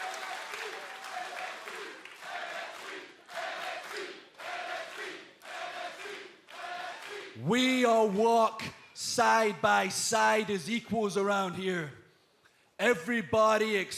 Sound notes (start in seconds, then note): 0.0 cheers and applause; 0.9 fans chanting